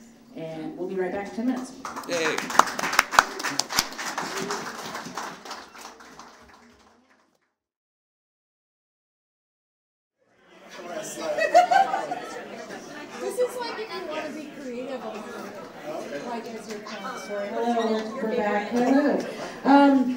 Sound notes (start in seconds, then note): 1.8 audience applauding; 6.0 audience chattering